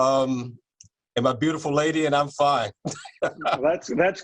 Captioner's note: laughter